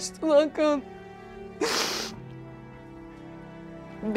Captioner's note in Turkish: Merve ağlıyor